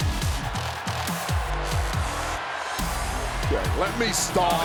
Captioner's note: crowd cheers